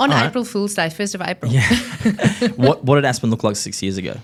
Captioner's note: laughs